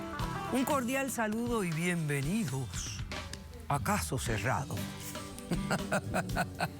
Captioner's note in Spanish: risas